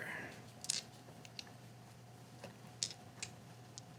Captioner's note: dice rattling